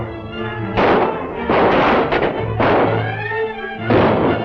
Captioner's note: gunshots